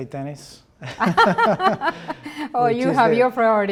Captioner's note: both laugh